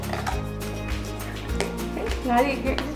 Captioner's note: cup scraping